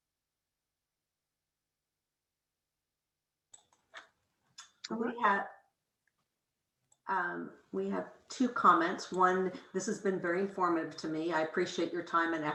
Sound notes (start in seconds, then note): 3.5 keyboard clicking